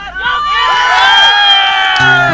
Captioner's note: crowd cheering